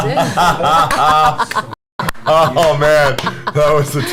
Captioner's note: all laugh